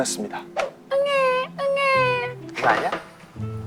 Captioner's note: crying